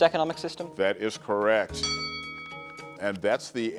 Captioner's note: bell chimes